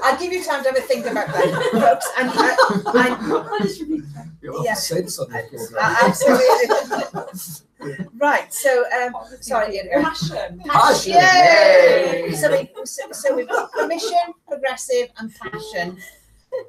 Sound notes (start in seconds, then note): 10.7 group make sounds of cheering